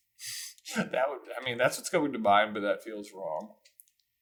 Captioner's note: chuckle